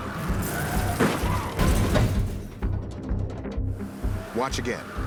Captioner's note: crashing sounds; tires screeching